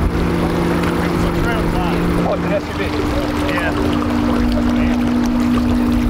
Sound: truck engine purring

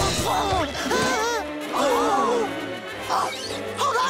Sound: gasping

